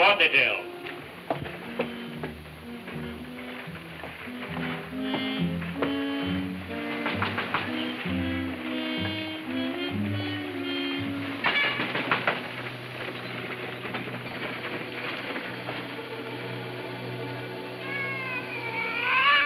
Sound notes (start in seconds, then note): 0.1 ominous music playing; 5.5 knocking on door; 17.8 cat meowing